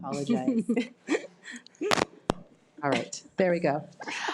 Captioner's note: laughs